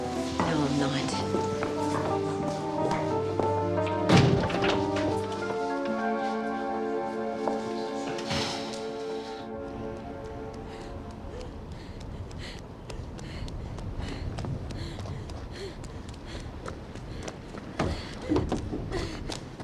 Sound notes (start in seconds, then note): 7.8 sighs; 9.3 kerry panting